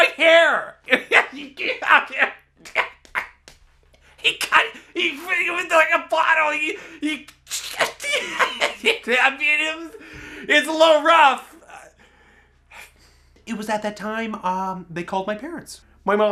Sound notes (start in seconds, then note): 0.0 laughs; 7.2 laughs hysterically